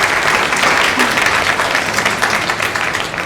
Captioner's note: applause